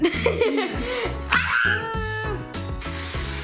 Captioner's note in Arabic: يضحك; صراخ